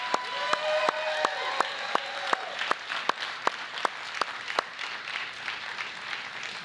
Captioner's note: applause